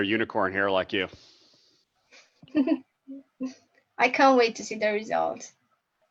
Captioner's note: chuckles